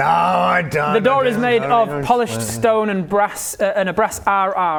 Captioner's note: grumbles